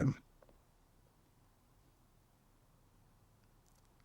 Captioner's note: pauses 6 seconds